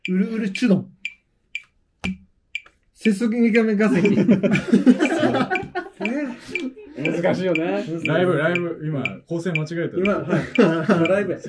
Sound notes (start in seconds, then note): 3.8 laughing